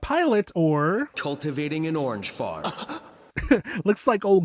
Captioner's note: gasp